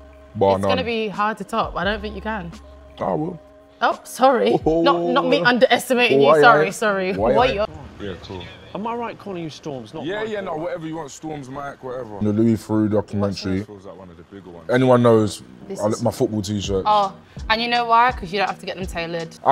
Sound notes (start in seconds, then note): 4.7 laughing